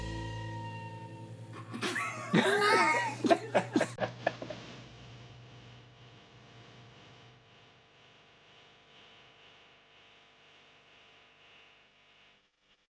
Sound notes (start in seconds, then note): 1.5 Hatfield chuckles; 1.5 both laugh; 4.0 upbeat music